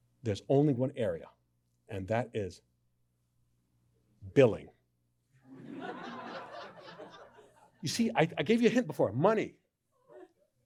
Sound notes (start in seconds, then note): 5.4 laughter